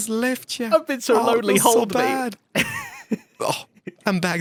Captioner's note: laughs